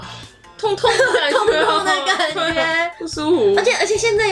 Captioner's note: crying noise